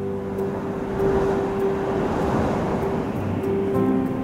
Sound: sound of the sea

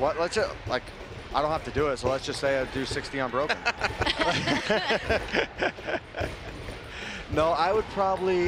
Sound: laughing

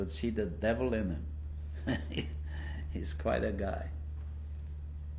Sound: laughs

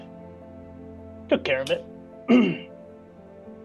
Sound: clears throat

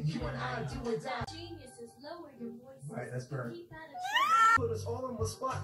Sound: screams

